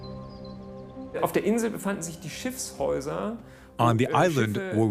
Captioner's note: speaks in foreign language